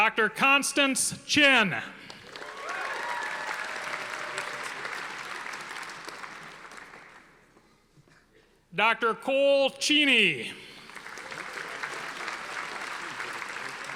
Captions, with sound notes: Dr. Constance Chen. (audience applauding) Dr. Cole Cheney. (audience applauding)